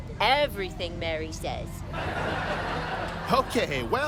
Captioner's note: audience laughing